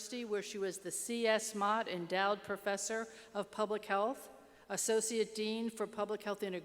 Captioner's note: none